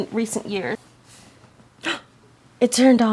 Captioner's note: gasp